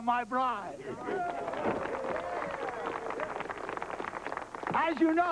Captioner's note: crowd cheering